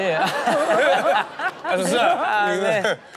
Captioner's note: all laugh